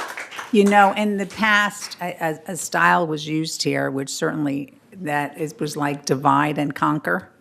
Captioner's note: applause